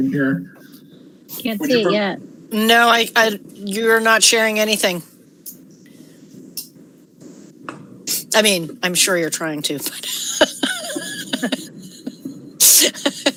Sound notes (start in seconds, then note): 9.9 laughter